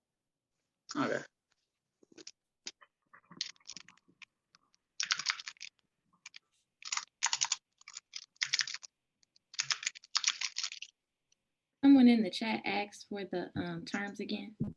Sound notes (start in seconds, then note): none